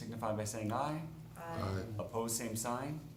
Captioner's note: chorus of ayes